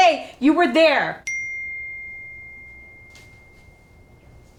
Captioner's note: phone chiming